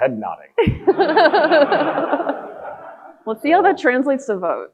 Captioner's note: audience laughing